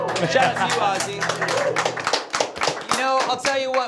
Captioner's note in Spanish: aplausos